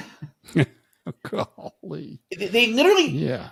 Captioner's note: chuckles